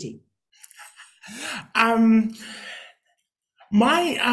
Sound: laughing

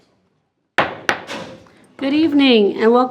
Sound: gavel bangs

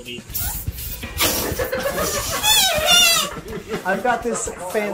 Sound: fart noise

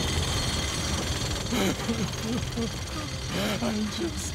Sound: crying

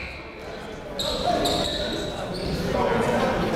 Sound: chatter

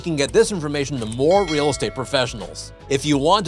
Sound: bell dinging

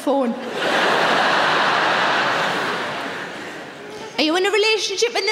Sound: audience laughing

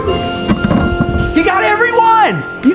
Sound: ball thudding

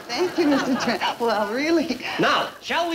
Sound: chuckling

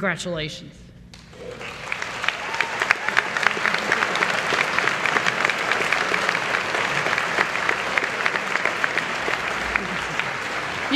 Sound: applause

